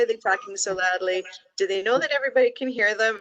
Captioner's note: laughs